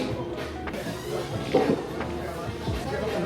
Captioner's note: sip